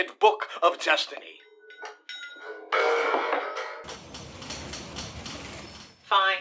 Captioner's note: busy office sounds